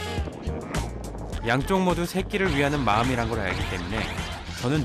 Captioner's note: commotion